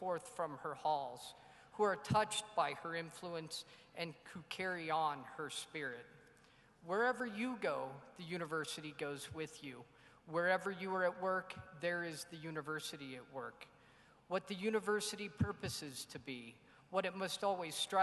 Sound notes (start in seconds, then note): none